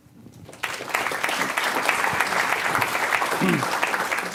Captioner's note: applause